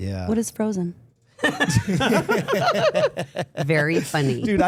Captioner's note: everyone laughing